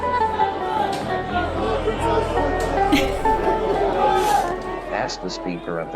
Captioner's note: busy trading floor